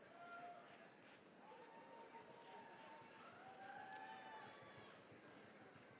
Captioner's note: cheering, applause